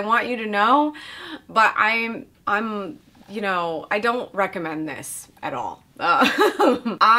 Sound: chuckles

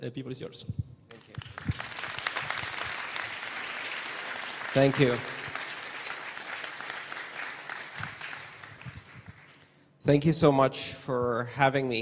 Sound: applause

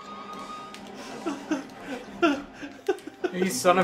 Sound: chuckles

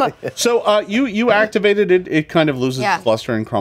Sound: laughs

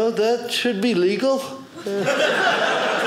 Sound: audience laughing

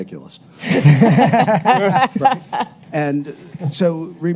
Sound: panelists laugh

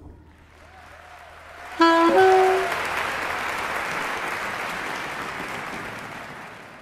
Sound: applause

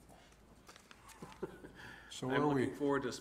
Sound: laughs

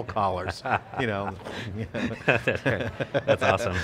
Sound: laughter

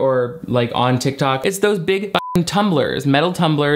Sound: beep

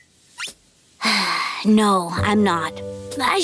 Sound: sighing

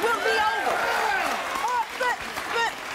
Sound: applause

